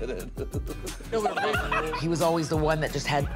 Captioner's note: laughs